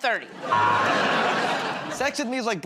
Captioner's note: buzzer